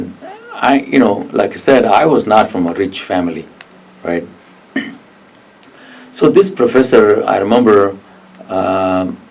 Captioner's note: coughs